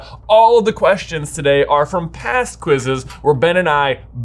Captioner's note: none